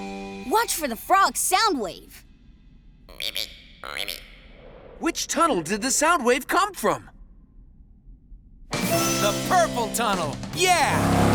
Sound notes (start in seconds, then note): 3.1 frog